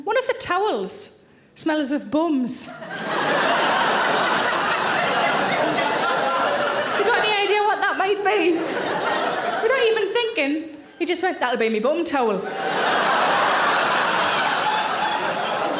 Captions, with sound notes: one of the towels smells of bums. (audience laughing) You got any idea what that might be? (audience laughing) And not even thinking, he just went, that'll be me bum towel. (audience laughing)